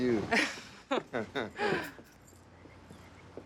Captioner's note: both chuckle